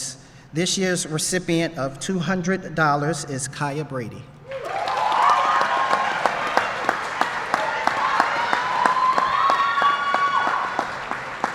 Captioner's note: applause